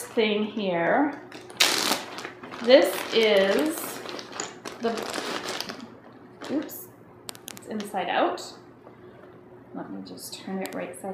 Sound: sound of Ziploc bag opening

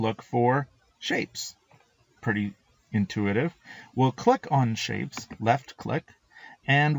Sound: left click

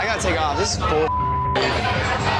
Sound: beeping

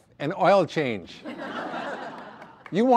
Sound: audience laughter

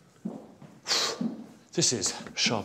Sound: sharp exhale

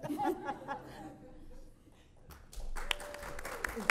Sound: audience applauds

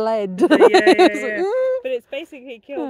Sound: laughing

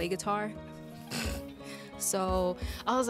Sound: laughs

